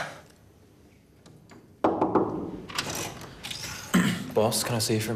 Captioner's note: knocking